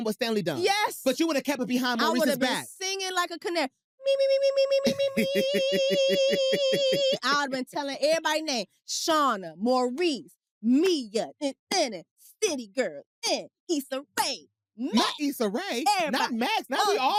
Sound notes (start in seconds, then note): 4.7 laughs